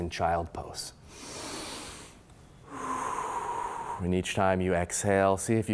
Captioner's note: loud exhaling